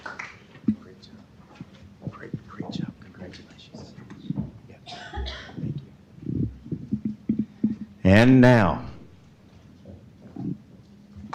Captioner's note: applause